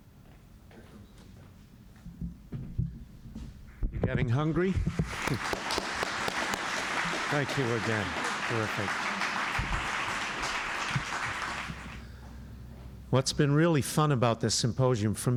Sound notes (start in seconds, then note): 4.8 applause